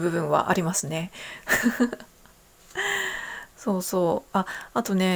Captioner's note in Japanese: 笑い; 息をのむ音